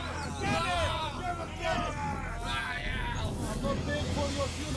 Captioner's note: men shouting